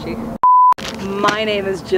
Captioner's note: beep